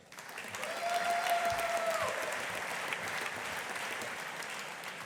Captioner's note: audience applauding